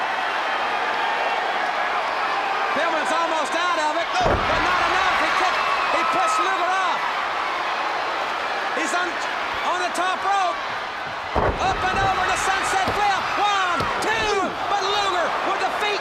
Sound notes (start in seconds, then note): 0.2 crowd chatter; 7.8 crowd cheering